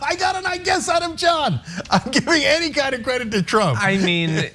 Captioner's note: laugh; laugh